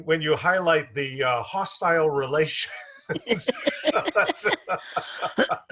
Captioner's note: laughs